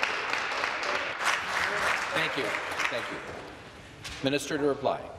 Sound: some applause

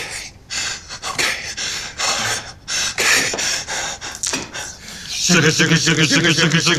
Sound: exhales

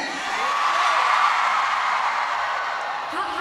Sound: crowd cheering

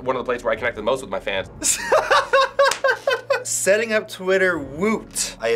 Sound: laughs

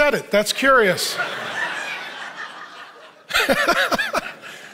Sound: audience laughing

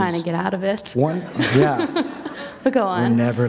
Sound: laughter

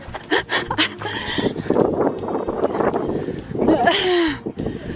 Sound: breathless laughing

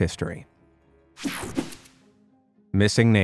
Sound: picture swooshes

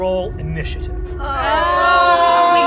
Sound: group groans

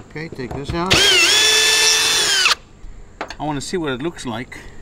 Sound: power drill runs

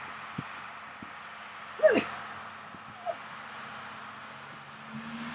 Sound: grunt

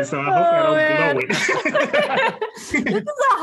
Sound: laughing

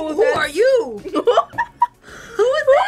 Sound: laughs

